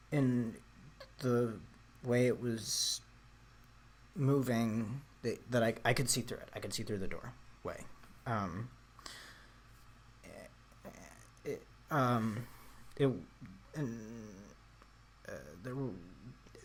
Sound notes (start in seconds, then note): 11.6 stammering